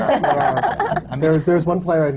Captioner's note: laughter